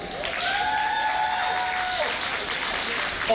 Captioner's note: audience applauding